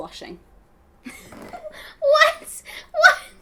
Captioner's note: both laughing